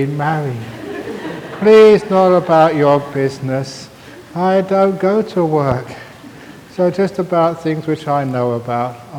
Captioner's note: laughter